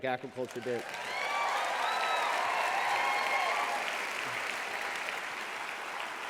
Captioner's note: applause